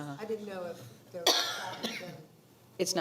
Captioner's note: coughing